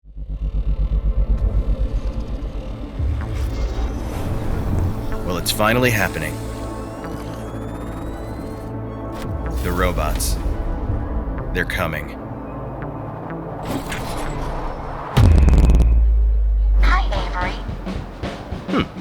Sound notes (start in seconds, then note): 0.8 electronic music; 0.8 engine whirring; 7.3 machinery whirring; 13.6 machinery whirring; 15.3 machinery rumbling; 18.3 punchy music